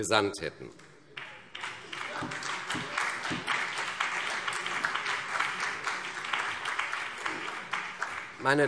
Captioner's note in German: Beifall CDU und vereinzelt BÜNDNIS 90/DIE GRÜNEN